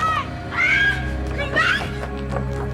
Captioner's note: screams